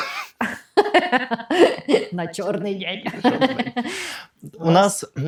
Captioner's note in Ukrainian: сміх